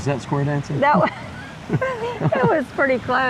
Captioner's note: laughing